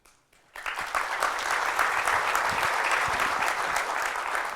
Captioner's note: applause